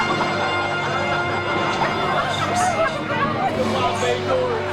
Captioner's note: laughter